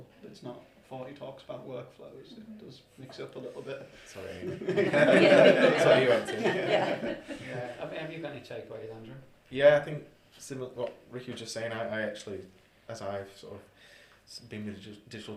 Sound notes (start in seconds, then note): 4.3 laughter